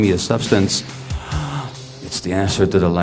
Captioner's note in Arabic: تنهيدة